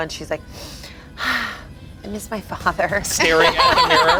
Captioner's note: exhales; group laughs